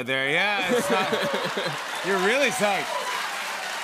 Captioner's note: laughter; cheers and applause